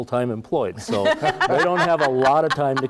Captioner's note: laugh